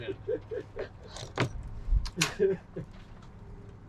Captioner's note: laughing